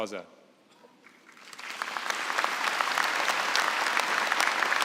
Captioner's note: applause